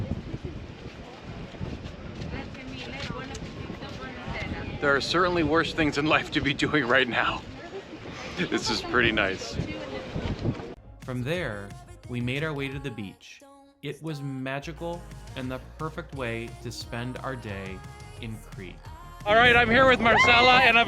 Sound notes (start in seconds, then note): 7.8 chuckles